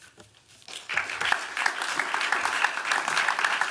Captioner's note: applause